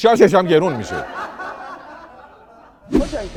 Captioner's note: laughter